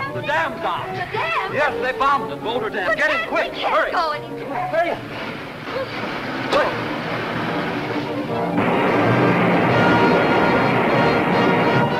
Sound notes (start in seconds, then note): 5.1 car engine revving; 8.4 suspenseful music; 8.4 water splashing